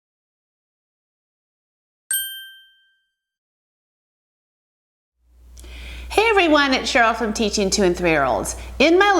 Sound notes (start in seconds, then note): 2.1 ding